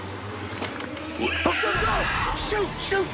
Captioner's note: screeching; creature screeching